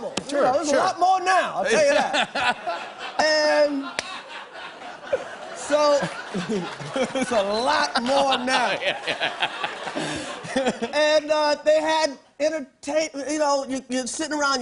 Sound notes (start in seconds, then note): 1.9 laughter continues; 6.1 chuckles; 8.8 laughing